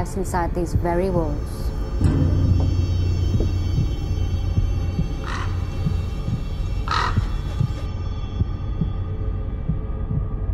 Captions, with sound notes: inside these very walls. (bird crowing)